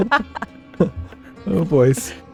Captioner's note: laughing